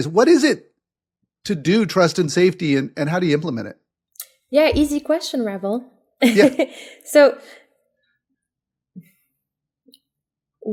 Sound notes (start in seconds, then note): 6.5 laugh